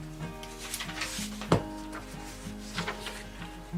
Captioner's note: papers flipping